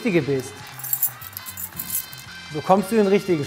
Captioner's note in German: Klimpern